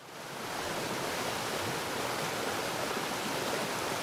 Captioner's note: water rushing